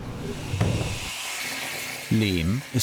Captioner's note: machine noise